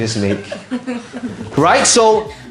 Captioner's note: audience chuckles